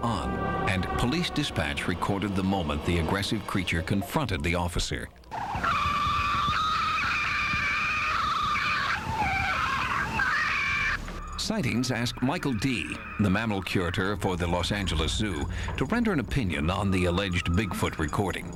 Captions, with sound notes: AND POLICE DISPATCH RECORDED THE MOMENT THE AGGRESSIVE CREATURE CONFRONTED THE OFFICER. ( shrieking ) SIGHTINGS ASKED MICHAEL DEE THE MAMMAL CURATOR FOR THE LOS ANGELES ZOO TO RENDER AN OPINION ON THE ALLEGED BIGFOOT RECORDING.